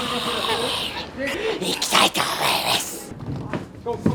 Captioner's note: loud whisper